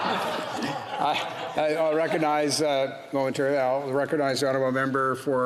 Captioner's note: off mic